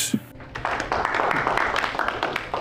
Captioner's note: applause